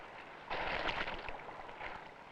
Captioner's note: splash